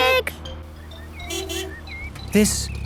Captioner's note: honking